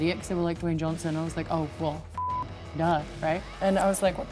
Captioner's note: beep